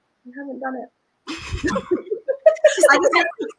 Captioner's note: all laugh